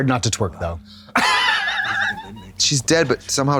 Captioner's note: Katya tee-hees